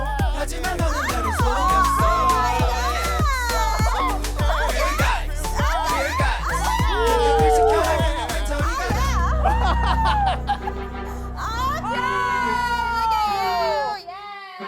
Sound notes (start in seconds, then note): 3.6 sobbing